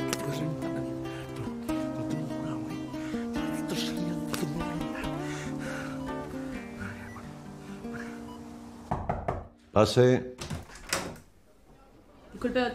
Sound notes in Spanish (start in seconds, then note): 0.1 habla entre dientes; 5.1 habla entre dientes; 8.8 Llaman a la puerta